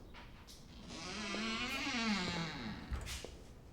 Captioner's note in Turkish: Kapı gıcırdama sesi